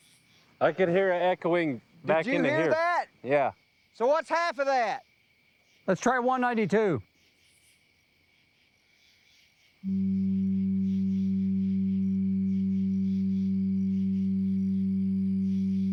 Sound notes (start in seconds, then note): 9.8 low-pitched tone sounds